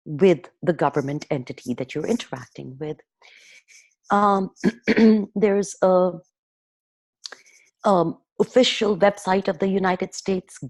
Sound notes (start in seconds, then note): 3.7 clearing throat